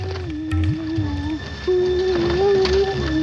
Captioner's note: chanting